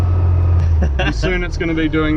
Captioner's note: chuckles